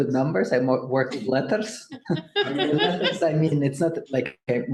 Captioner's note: audience laughing